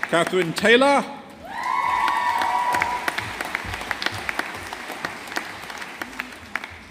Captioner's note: audience applauding